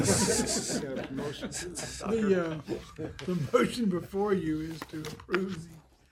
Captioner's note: laughter